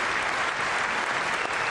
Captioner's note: applause